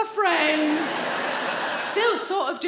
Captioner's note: audience laughing